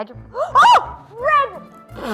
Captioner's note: screaming